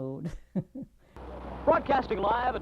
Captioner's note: chuckles